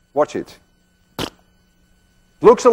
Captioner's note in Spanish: splat